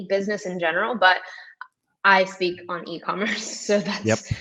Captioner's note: chuckles